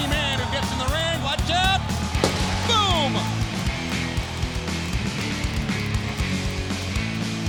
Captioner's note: pyrotechnics explode